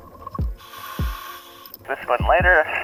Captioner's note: apparatus inhales